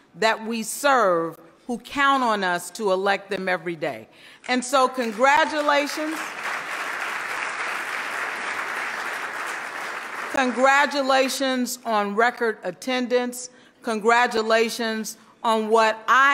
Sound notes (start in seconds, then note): 5.0 loud clapping